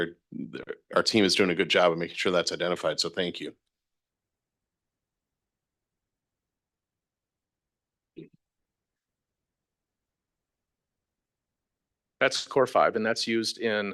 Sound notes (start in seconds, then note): 5.7 audio cuts out